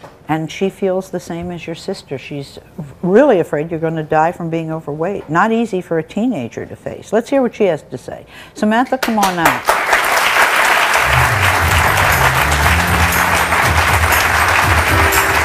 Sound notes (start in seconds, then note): 9.5 audience applauds; 12.6 upbeat music